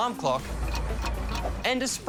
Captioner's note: clock ticks